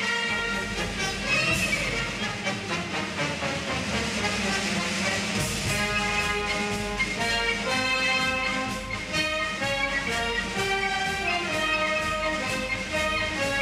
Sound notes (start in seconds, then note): none